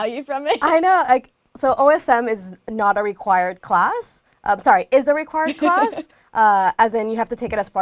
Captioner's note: laugh